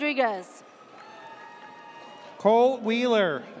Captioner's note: audience cheers